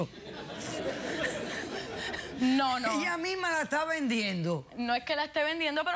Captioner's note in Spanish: risas del público